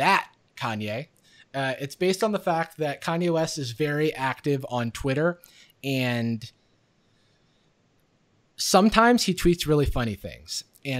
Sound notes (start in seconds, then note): none